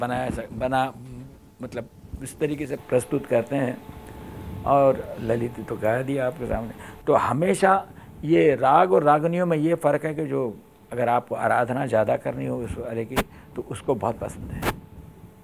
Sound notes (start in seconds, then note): 6.1 speaks in Hindi – not transcribed